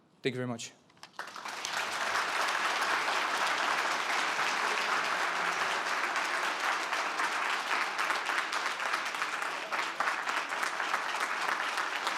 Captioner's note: applause